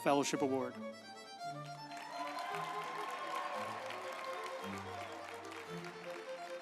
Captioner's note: uplifting music; group applauding